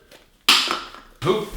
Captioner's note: thwack